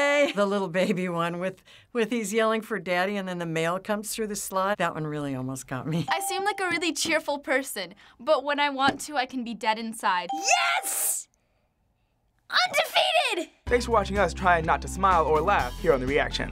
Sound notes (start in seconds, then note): none